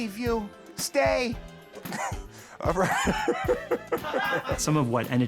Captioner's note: laughs